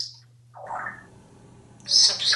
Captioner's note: bubble sound